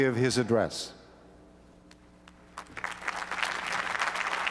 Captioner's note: applause